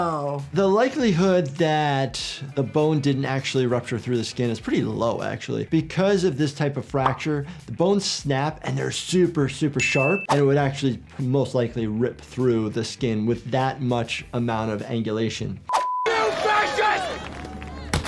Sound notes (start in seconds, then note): 15.7 beep